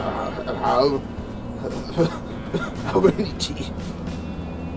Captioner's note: spluttering & stuttering; stuttering